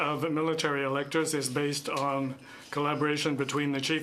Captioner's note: speaking French